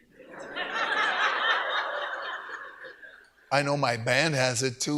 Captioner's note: audience laughs